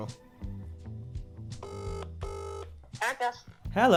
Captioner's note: phone ringing noise